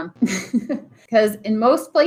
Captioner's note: chuckling